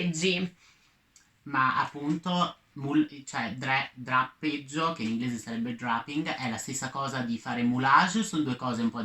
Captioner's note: drapping in English